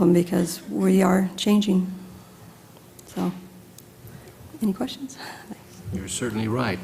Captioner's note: laugh